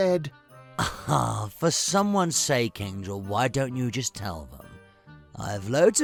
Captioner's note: laughs